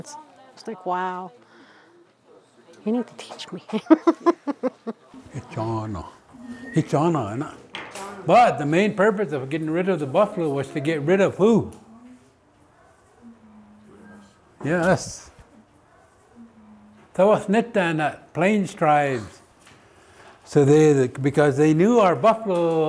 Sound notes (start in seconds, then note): 3.7 laughing; 5.2 foreign language; 17.0 foreign language